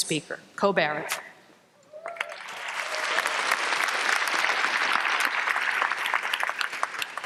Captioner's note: applause